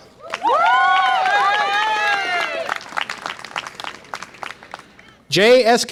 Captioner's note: audience applause and cheer